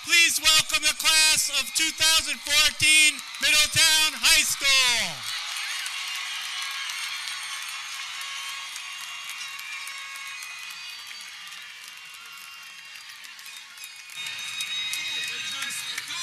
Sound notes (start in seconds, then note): 5.3 audience cheering